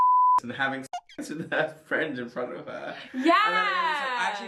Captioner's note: beep; squeak